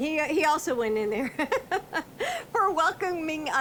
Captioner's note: laughing